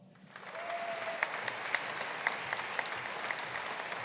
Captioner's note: audience applauding